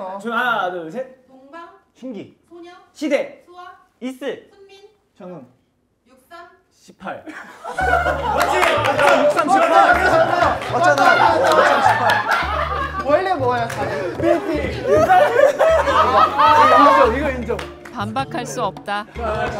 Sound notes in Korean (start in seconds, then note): 11.2 대폭소